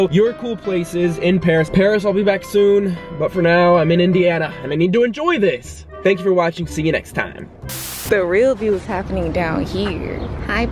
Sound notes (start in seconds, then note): 7.8 static